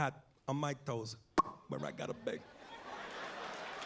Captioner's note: pops mouth